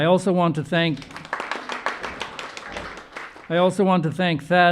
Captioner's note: audience applauding